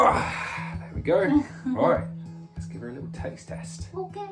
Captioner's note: laughs